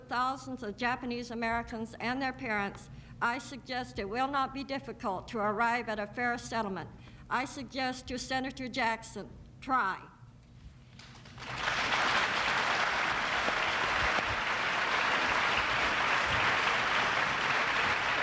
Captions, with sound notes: uproot thousands of Japanese Americans and their parents I suggest it will not be difficult to arrive at a fairer settlement. I suggest to Senator Jackson, try. (applause)